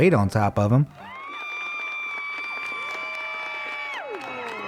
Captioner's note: crowd cheering